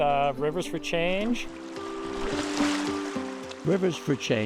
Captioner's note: river gurgles